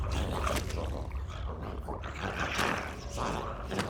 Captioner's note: dramatic music continues; zombie growling